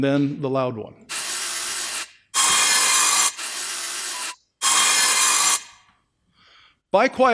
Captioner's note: saw Noises